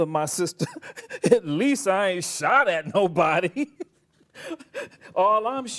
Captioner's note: laughs